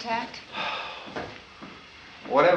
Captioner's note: sighs